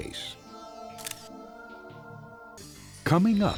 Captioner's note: camera shutter sounds